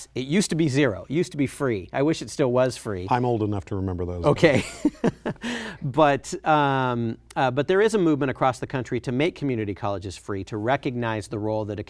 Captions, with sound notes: It used to be zero, it used to be free. I wish it still was free. >>I'm old enough to remember those days. >>Ok (laughter). But there is a movement across the country to make community colleges free to recognize the role that a